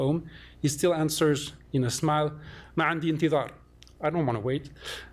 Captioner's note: non-english